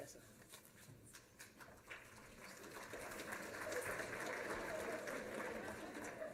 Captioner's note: applause